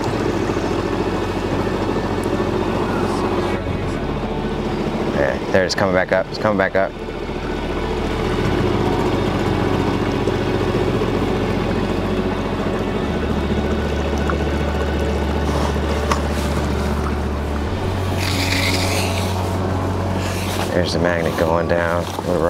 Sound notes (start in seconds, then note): 0.1 emotive synth music; 7.8 emotive synth music; 18.3 rope shuffling